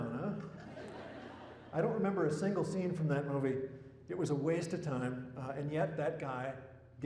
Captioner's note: laughter